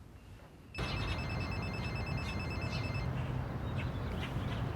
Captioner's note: phone ringing